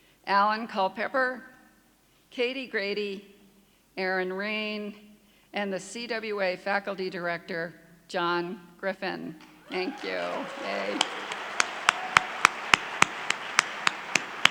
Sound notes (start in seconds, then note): 9.4 clapping